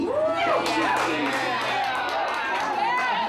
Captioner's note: cheering